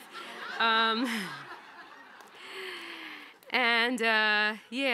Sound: audience laughing

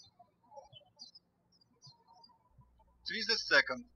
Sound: birds chirping

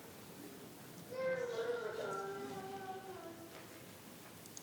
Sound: child babbling

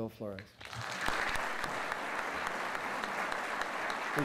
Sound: applause

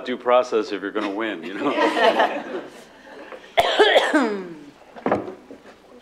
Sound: laughter

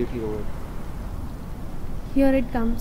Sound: chuckles

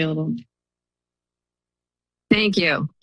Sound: silence

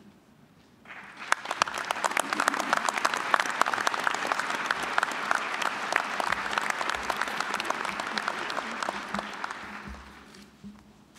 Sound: applause

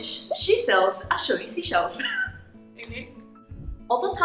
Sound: laughs

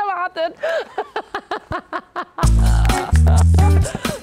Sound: lacht

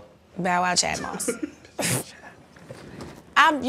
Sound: giggling

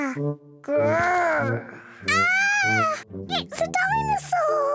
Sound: peppa screams

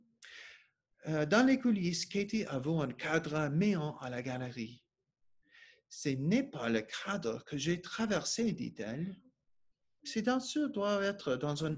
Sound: speaking French

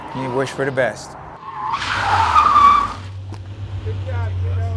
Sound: tires squealing

